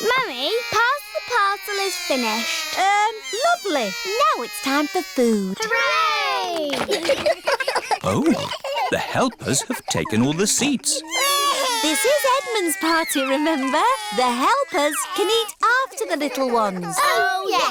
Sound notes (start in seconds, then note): 6.7 giggles; 10.9 babies crying